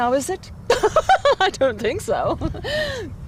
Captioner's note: laughter